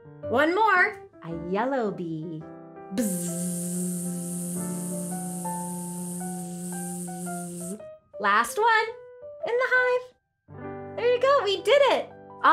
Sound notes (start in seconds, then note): 3.0 buzzing